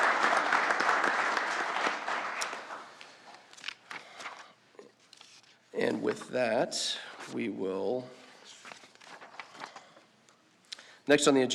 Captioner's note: applause